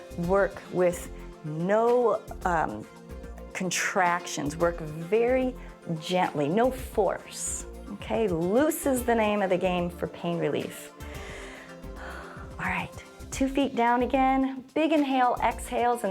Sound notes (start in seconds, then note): 11.0 inhales and exhales